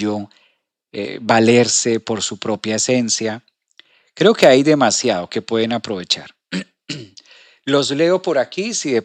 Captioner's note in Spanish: carraspeo